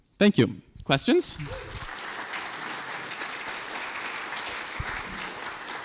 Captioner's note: applause